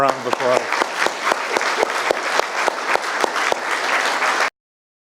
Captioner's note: audience applauding